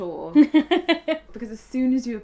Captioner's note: laughing